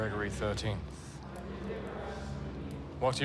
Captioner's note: crowd